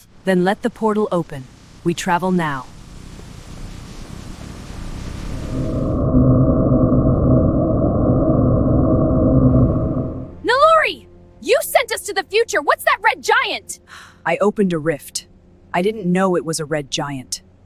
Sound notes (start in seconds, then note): 5.4 traveling White Noise; 13.9 sigh